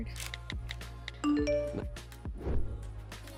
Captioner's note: notification dinging; upbeat music